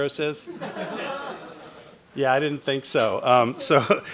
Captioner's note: audience laughing